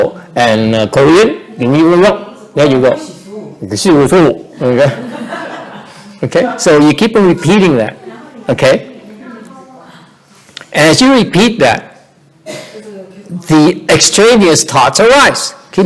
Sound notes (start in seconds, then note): 3.7 trying to speak Korean; 4.6 laughter; 8.9 background chattering